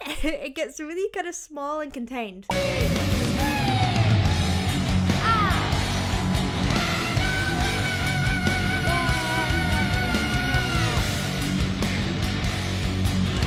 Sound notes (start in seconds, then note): 0.0 laughing; 5.5 audience cheering; 10.5 low rhythmic music continues